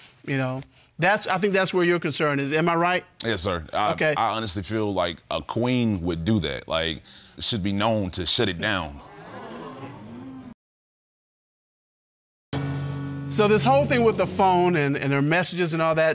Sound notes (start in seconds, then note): 9.0 audience exclaims